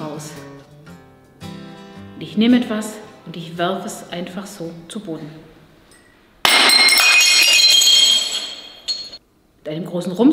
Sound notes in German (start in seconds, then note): 6.4 Klirr